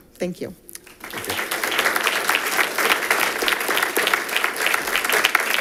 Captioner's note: audience applauding